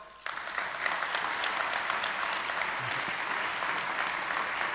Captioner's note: audience clapping